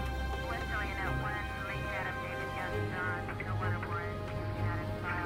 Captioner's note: police radio chatter